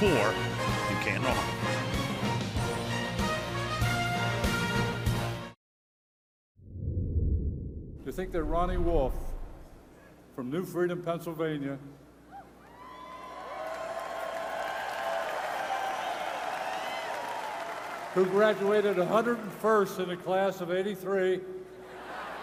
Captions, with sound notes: up by 4 in Canton, Ohio. [upbeat music] Do you think that Ronnie Wolf from New Freedom, Pennsylvania-- [cheering] --who graduated 101st in a class of 83--